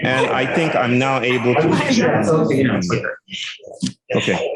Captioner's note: indistinct conversation